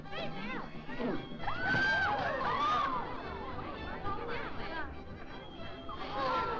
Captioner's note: crowd chattering; woman screaming; crowd gasping